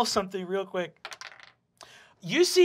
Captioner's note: dice clacking